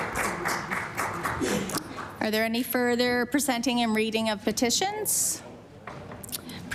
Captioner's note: applause